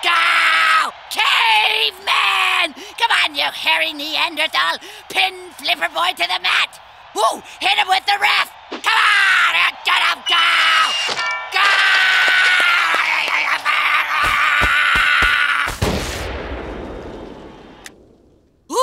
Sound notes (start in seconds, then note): 11.5 screaming; 15.7 exploding